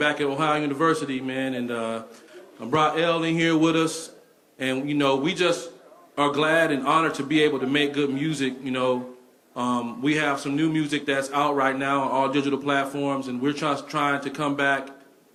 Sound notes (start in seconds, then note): none